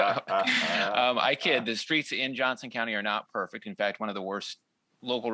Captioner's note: laughter